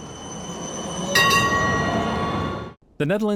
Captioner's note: ding ding!